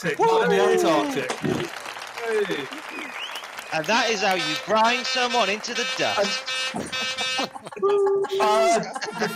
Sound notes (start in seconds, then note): 1.7 applause; 6.3 honking; 9.1 trumpet call